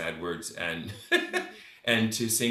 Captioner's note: laughs